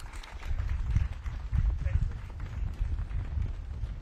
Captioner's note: audience claps